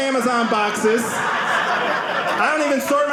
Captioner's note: audience laughing